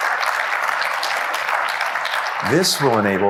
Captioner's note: applause